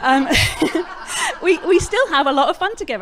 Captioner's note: background laughter